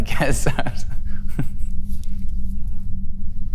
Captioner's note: laughs